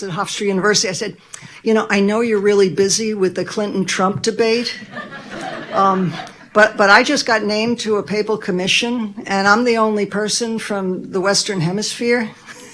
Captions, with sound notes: at Hofstra university, I said, " You know, I know you're really busy with the Clinton-Trump debate, (Audience laughing) but I just got named to a Papal commission, and I'm the only person from the Western hemisphere"